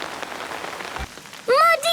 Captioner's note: downpouring